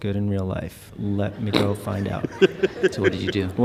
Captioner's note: laughs